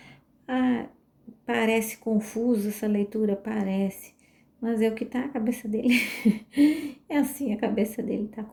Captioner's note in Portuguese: risadas